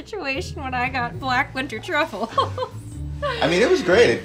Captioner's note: laughs